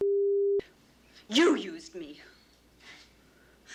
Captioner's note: breathes sharply